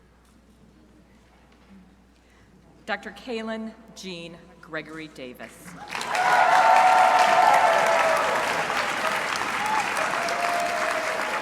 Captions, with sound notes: Dr. Kalin Jean Gregory-Davis. (crowd applauding)